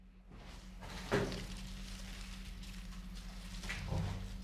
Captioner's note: quiet rustling